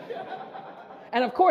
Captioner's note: audience laughter